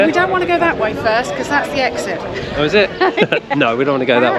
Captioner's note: laughs